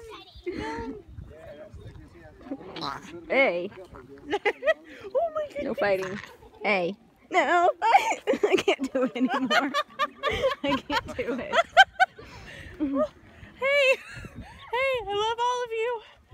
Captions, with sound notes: [alpaca noise] Hey! No fighting. Hey! No! [freaking out noises] I can't do any more! [laughing] I can't do it. Hey! Hey! I love all of you.